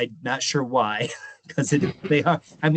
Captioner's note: chuckling